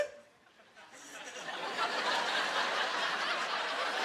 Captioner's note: laughing